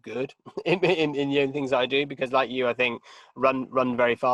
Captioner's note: chuckling